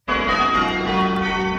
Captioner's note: bells ringing call changes